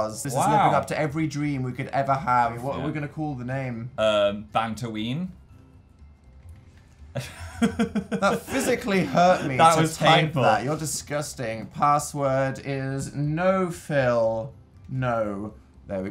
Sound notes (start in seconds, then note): 7.1 chuckle